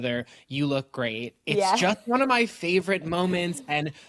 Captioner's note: chuckles